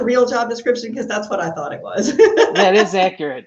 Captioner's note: laughs